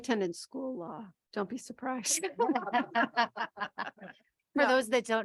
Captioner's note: people laughing